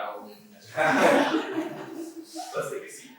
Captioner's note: laughter